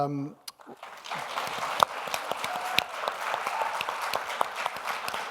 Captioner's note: audience applauds